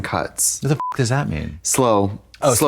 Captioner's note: beep